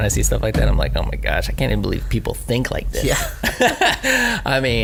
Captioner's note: laughs